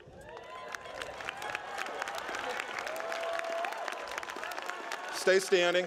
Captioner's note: applause